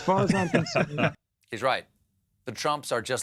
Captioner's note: laughter